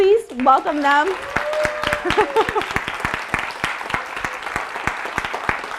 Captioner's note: audience applauding